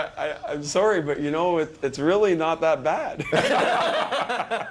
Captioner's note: laughter